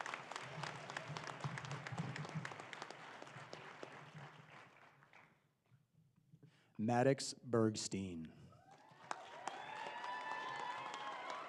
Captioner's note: applause